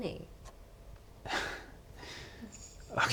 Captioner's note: laughs